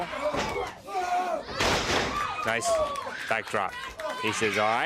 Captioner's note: crowd chatter